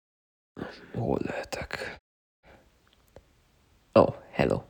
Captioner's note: whispered the champion